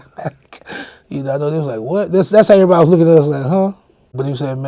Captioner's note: laughing